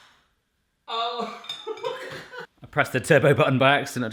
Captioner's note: laughing